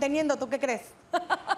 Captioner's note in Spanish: Ríe